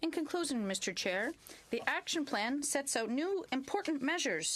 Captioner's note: speaking French